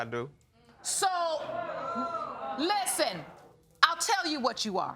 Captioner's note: audience exclaims